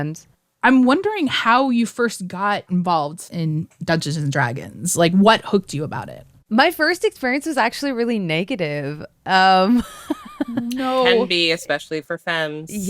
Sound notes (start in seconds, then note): 9.7 laughter